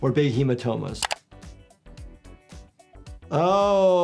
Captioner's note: camera shutter snaps